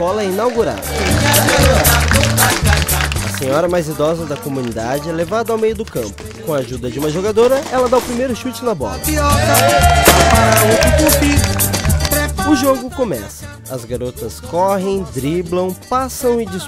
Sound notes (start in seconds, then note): 0.3 clapping; 7.2 fireworks